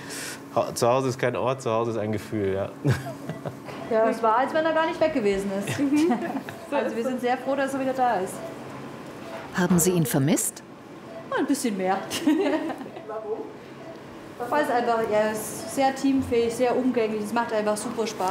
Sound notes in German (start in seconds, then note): 6.0 Lachen